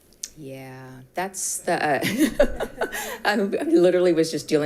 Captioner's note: laughs